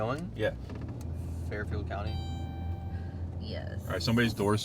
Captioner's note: Suena la campana